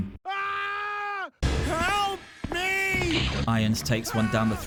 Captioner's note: scream